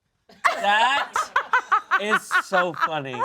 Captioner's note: all laugh